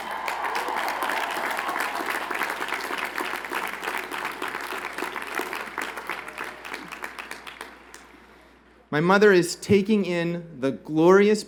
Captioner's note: cheers and Applause